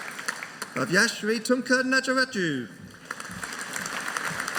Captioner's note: audience applauding